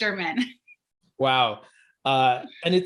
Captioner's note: laughing